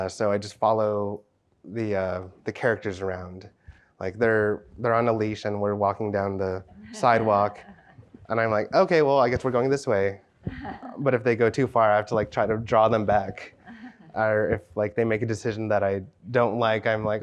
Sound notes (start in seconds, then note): 13.6 chuckles